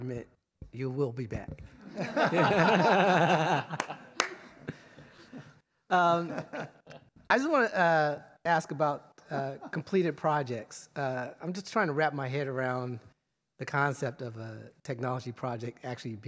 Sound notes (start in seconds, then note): 1.8 laughter